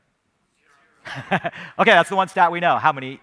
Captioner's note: laughing